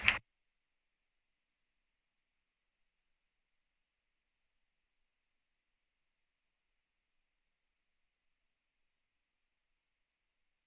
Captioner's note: applause